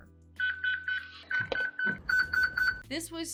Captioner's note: Eufy lock beeping